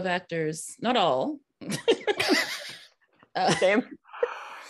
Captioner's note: all laughing